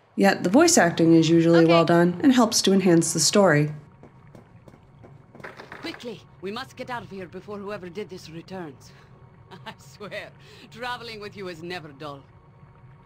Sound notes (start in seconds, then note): 3.9 footsteps; 5.3 bars rattling; 9.5 laughs